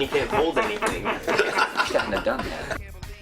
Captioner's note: laughs